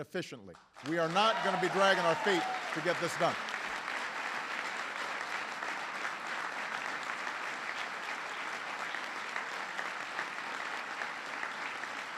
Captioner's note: applause